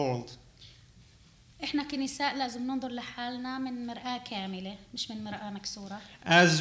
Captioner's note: speaking arabic